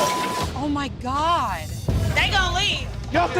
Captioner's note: objects crashing; beep